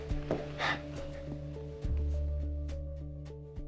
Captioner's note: sighs